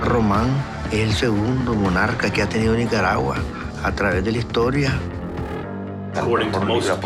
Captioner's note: speaking in spanish